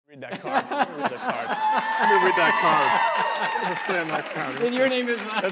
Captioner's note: applause